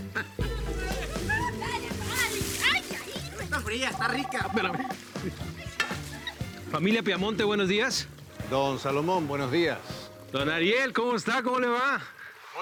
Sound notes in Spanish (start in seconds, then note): 0.1 Risas